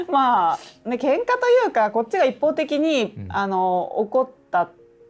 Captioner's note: laughs